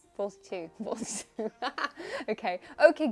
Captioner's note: laughs